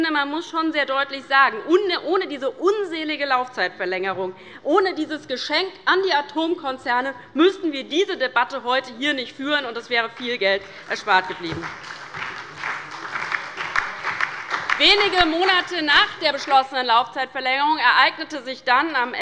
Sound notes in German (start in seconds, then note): 10.5 Beifall bei der LINKEN, der SPD und dem BÜNDNIS 90/DIE GRÜNEN